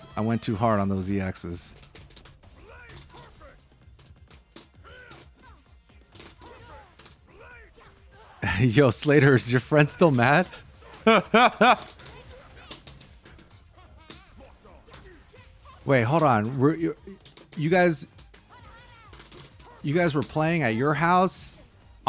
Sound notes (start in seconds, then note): 10.6 laughs